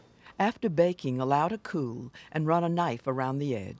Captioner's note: voiceover